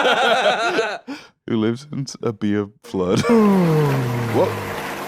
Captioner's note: both laughing; laughs